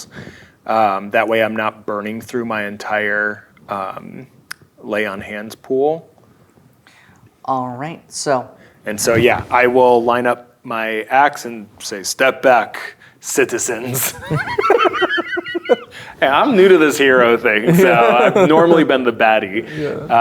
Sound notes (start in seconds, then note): 14.0 players laughing